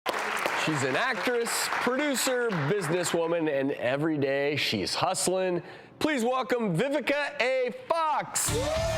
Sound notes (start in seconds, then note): 0.0 audience clapping; 8.4 audience clapping and cheering